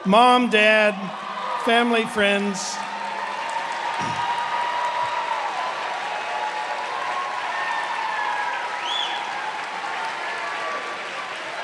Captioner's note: cheers and applause